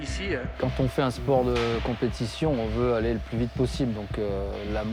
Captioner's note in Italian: parla in francese